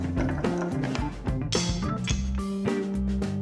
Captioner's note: rolling sounds; clank